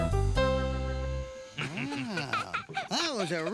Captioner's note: chuckling